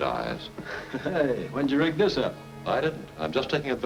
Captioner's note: chuckles